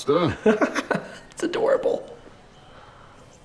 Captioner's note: laughs